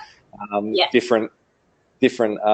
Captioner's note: laughs